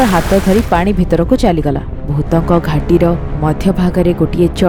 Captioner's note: waterfall